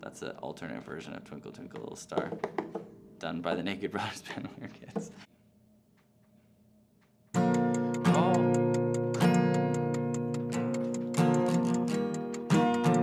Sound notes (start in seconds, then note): 7.4 timer ticking